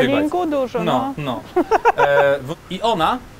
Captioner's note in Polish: śmiech